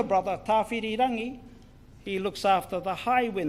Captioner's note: speaks in foreign language